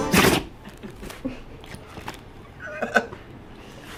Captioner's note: Bosco sneezing